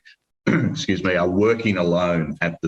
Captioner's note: clears throat